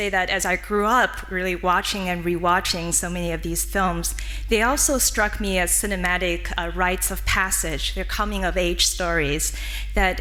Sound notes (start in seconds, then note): none